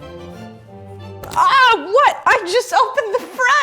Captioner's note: exclaims